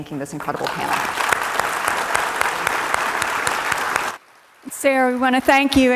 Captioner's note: audience applauding